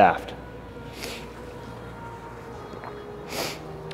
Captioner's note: sniffles